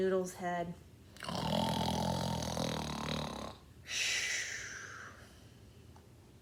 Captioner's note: snores loudly